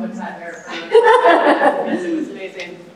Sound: laughing

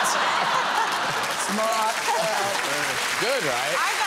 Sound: audience clapping

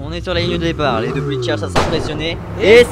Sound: gunshot

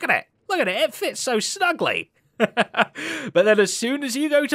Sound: chuckles

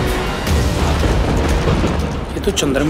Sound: storm rumbling

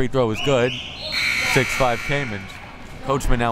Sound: buzzer

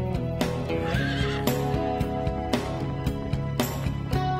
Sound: horse neighs

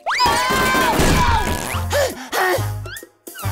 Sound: screaming; gasping

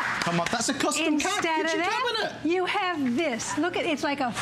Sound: applause

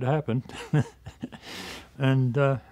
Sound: laughs

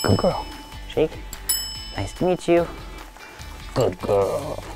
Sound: bell dings

